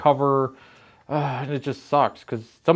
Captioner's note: sighs